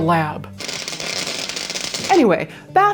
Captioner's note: electric buzzing